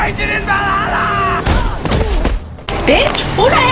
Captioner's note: Furiosa grunting while fighting Max